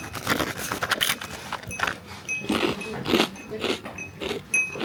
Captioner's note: crunch crunch